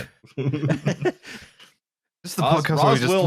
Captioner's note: laughter